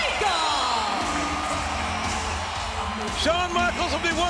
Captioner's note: audience cheering and clapping